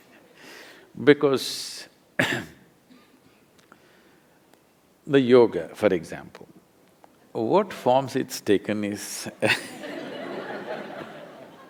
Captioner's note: laughter